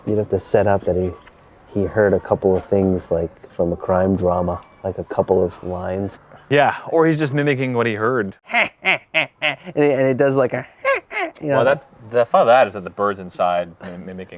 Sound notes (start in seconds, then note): 8.4 imitates parrot laugh; 10.1 imitates high-pitched parrot laugh